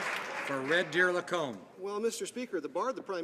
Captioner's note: some Applause